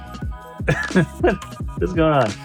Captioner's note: laughing